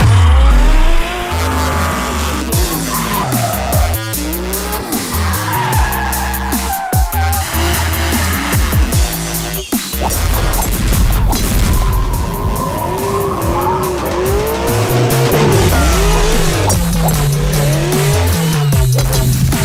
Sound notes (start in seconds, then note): 7.4 wappp wappp wapppppp; 9.5 golfers walloping their balls; 10.5 whack!; 10.6 smack!; 15.7 ping!